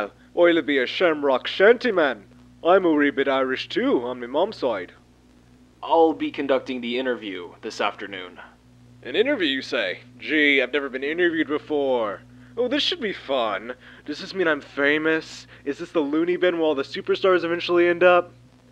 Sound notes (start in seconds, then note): 8.7 normal voice